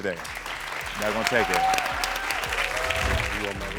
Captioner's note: audience applauds